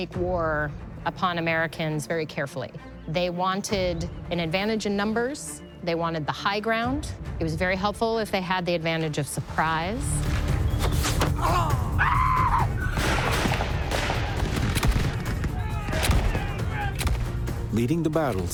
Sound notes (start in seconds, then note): 12.9 guns firing